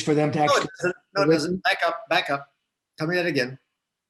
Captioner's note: static audio